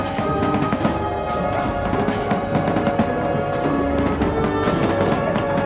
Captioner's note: solemn music; guns bang